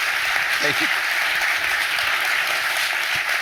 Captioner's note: more applause